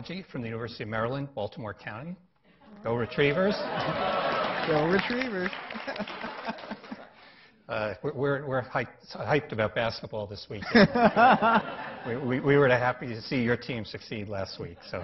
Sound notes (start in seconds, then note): 3.1 laughing; 5.6 chuckling